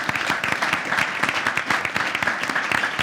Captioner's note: clapping